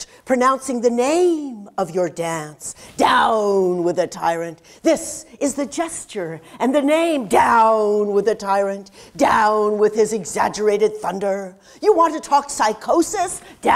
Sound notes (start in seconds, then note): none